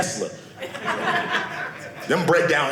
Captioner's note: audience laughing